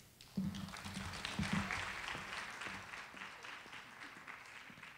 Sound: audience applauding

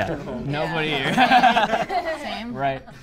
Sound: group laughs

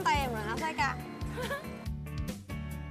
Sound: giggle

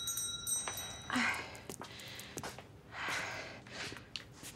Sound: taking deep breaths

